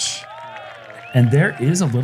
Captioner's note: applause; cheering